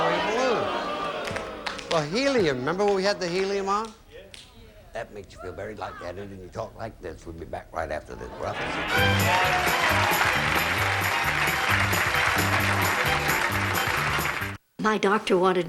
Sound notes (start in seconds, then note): 6.0 in high pitched voice; 8.5 audience applauding